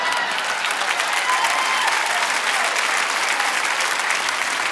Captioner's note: audience applauding